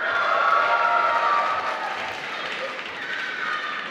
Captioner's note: applause